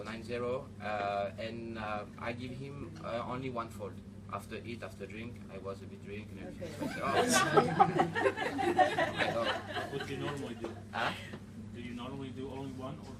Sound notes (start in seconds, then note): 6.7 laughter